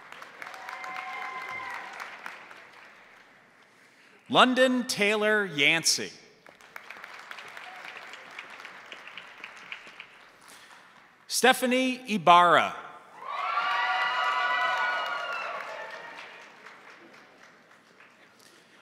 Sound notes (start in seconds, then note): 0.0 crowd applauding; 0.0 crowd cheering; 6.4 crowd applauding; 13.1 crowd cheering; 13.2 crowd applauding